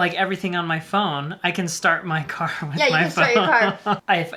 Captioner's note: chuckles